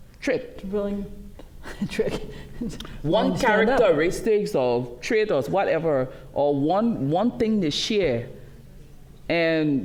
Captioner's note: laughs